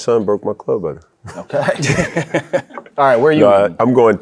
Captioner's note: all laugh